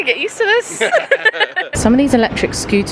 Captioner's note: laughing